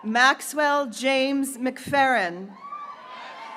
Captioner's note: graduates cheering